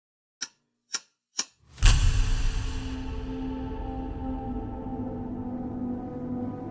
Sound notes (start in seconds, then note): 0.6 ticking; 1.8 dramatic electronic music